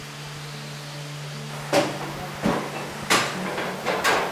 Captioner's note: machines stamping